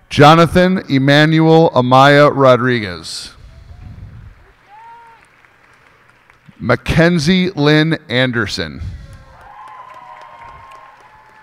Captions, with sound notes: Jonathan Emanuel Amaya Rodriguez. [cheers and applause] Makenzie Lynn Anderson. [cheers and applause]